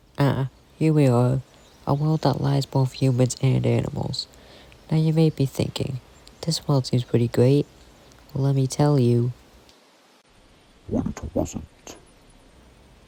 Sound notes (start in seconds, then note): 11.1 distorted voice